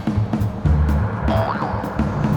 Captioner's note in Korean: ♬ 경쾌한 배경음악; 보잉 소리